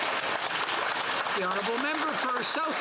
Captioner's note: speaking alternate language; some Applause